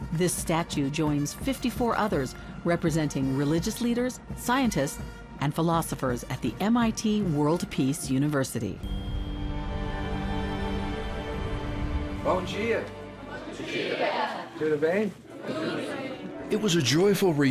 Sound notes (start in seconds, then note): 8.9 gentle music; 12.3 speaking in foreign language; 13.6 group speaking in foreign language; 14.9 speaking in foreign language; 16.1 group speaking in foreign language